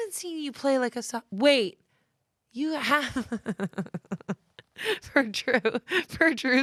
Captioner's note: laughs